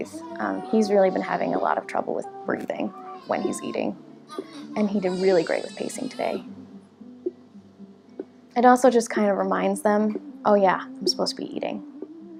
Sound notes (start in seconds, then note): 8.1 Gato Box tapping steadily